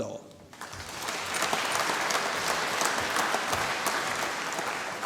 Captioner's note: applause